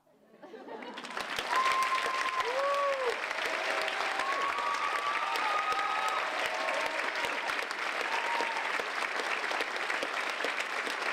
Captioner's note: applause